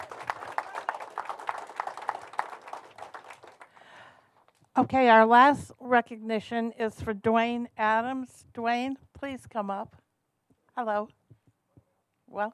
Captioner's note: applause